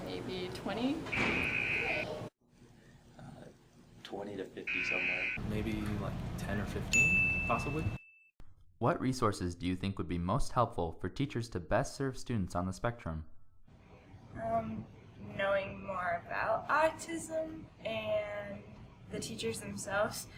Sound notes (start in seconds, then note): 1.1 buzzer; 4.6 buzzer; 6.9 ding